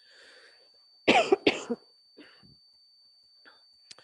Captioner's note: coughs